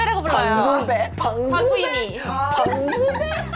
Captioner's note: in a mocking tone